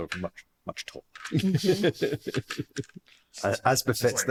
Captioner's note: laughter